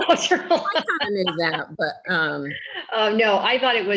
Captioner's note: laughing